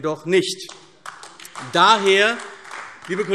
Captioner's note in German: Beifall AfD